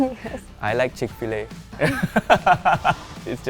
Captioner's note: laughs